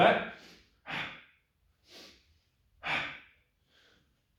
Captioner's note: gasping loudly